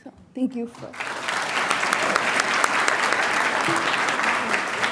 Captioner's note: audience applauding